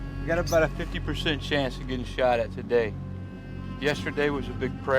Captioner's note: bell